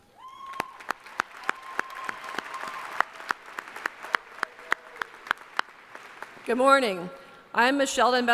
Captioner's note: applause